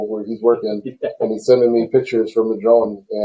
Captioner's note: laughs